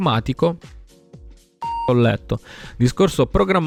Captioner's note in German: piep